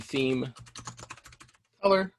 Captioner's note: keyboard clicking